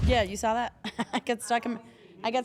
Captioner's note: laugh